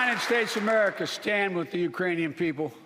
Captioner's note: applause